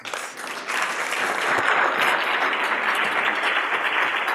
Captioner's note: applause